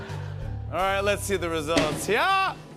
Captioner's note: normal voice